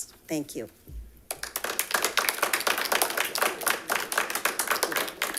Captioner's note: audience clapping